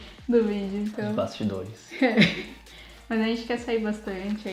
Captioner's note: laughs